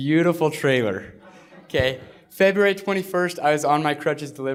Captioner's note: laughter